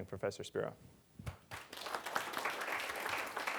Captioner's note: applause